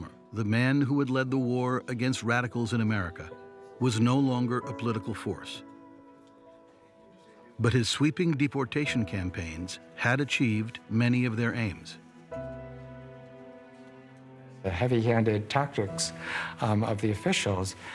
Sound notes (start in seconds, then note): none